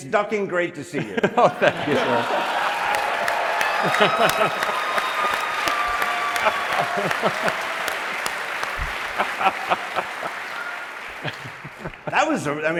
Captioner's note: laughter